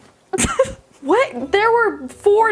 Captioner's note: chuckling